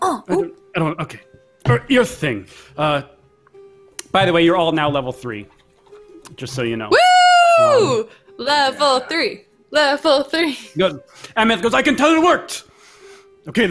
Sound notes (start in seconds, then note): 6.9 cheers